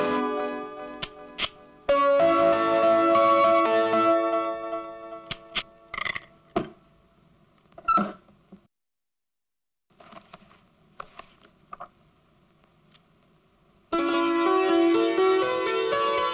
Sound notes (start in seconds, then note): 5.8 rattling; 7.8 table creaks